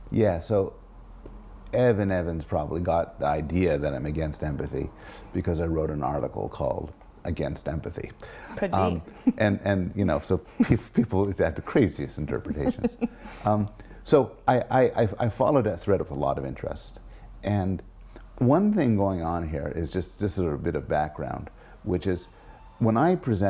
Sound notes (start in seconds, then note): 12.4 laugh